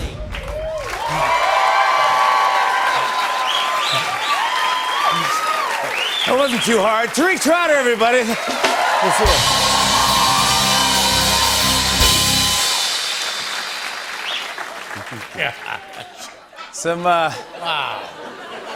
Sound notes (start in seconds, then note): 0.2 cheers and applause; 12.3 cheers and applause; 14.8 chuckling; 17.4 laughter